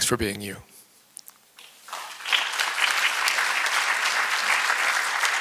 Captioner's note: applause